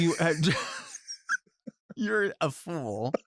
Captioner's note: laughs; Delta laughs